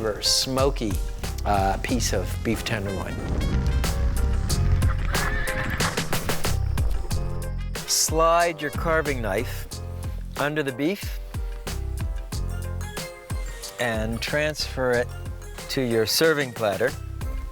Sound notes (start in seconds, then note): 3.7 upbeat piano music; 4.6 horse neighing